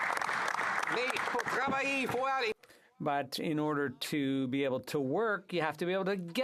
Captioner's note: applause